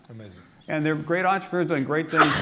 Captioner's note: sneeze